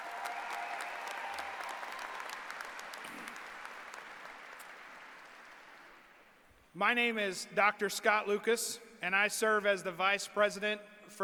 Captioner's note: applause